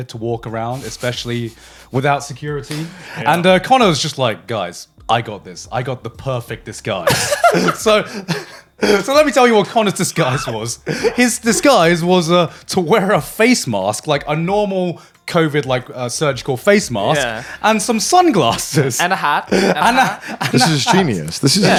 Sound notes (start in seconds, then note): 7.0 laughing